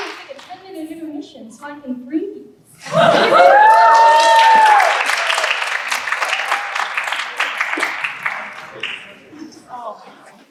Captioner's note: laughter & Applause